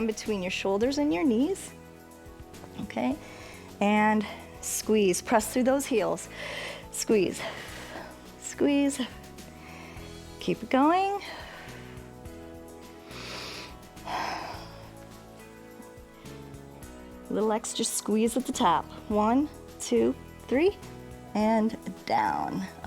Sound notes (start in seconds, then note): 13.0 inhales and exhales